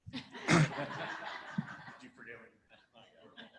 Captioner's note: laughter